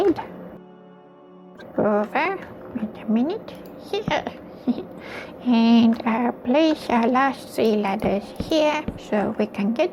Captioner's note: chuckles